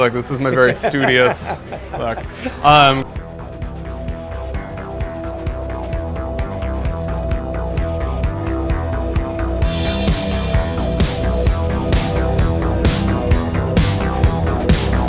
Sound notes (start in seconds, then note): 2.0 laughter; 3.4 upbeat synth music